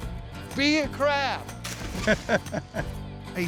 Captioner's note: laughter